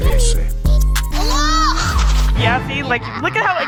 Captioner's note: screams